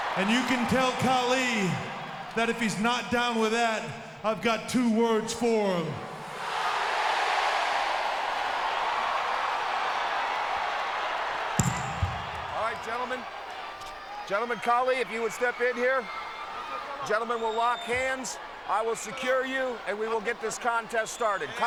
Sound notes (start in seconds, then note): 8.5 cheers